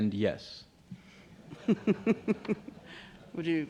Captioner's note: audience laughing